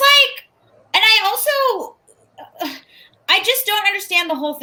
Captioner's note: sighs exasperatedly